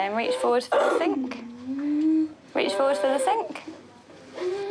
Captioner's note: coughs